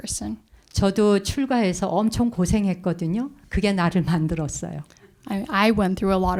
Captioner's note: speaking in Korean